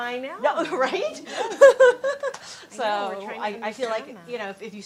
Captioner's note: chuckles